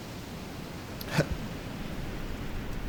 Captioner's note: choking